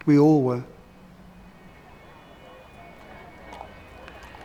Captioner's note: sirens and chanting